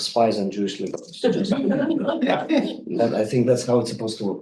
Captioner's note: group laughing